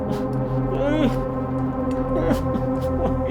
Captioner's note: groaning